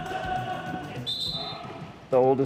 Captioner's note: whistle